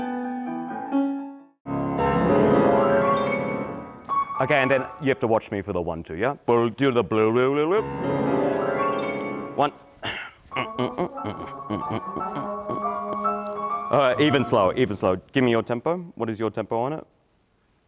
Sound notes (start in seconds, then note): 7.7 piano chiming; 10.4 humming